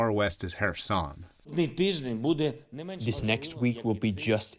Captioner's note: through translator